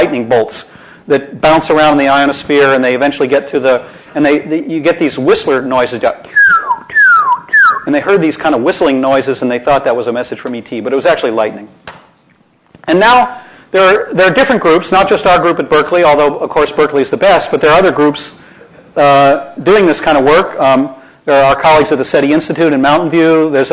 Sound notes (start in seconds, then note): 6.3 whistling